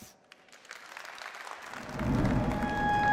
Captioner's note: applause